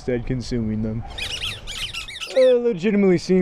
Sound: Rat King squeaking

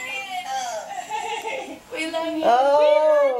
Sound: laughing

